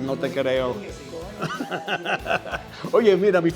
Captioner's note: laugh